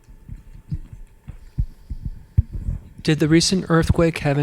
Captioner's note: mic rustles